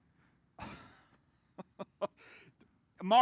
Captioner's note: laughs